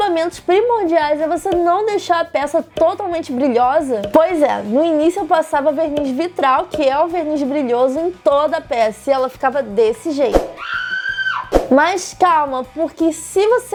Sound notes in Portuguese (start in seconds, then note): 10.5 sons de grito